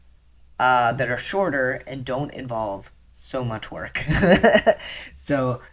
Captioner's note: laughter